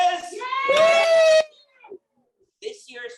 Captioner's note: audience cheering